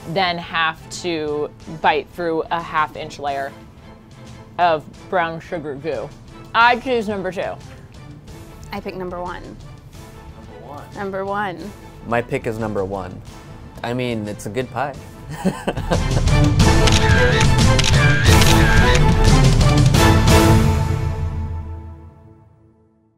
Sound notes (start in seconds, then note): 15.3 laughs; 16.5 intense music